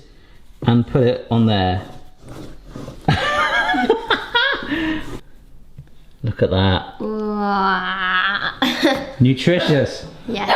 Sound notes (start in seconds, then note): 3.0 laughing